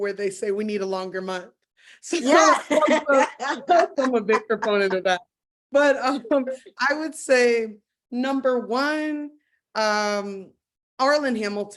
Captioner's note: chuckles